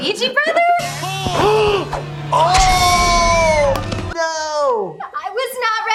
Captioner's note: both gasping/screaming